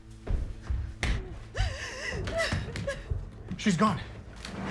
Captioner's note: Amelia sobbing